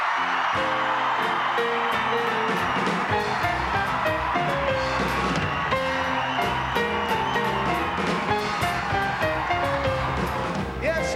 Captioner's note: cheering